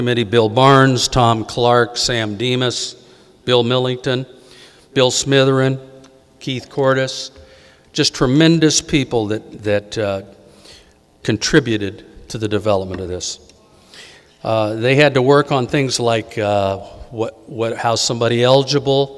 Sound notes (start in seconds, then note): none